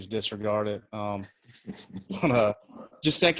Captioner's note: chuckles